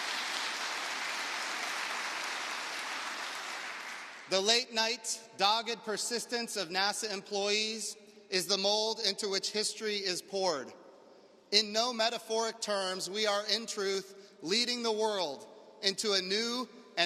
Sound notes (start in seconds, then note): 0.0 applause; 2.9 cheers and applause